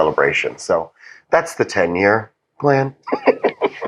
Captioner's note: laugh